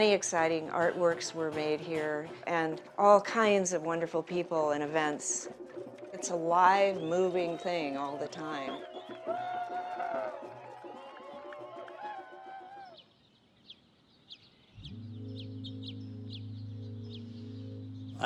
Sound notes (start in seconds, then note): 9.2 people cheering in the background; 12.7 birds chirping in the background; 14.8 slow music playing in the background